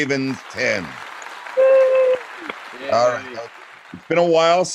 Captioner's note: clapping